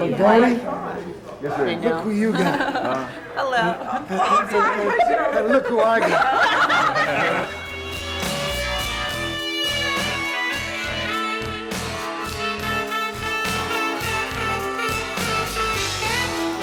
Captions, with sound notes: - Hey Donny, look who you got. (people laughing) And look who I got.